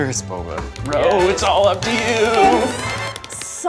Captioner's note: clapping